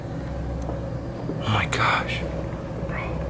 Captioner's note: whispering